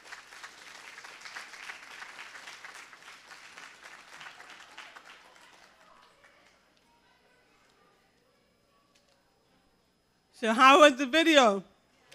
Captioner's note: cheering